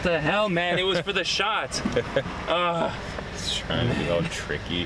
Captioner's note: groans